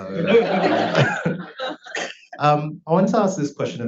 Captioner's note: audience laughs